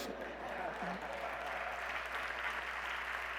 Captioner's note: laughter